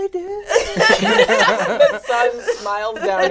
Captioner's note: all laugh